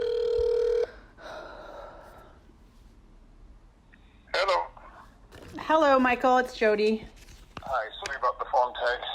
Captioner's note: phone ringing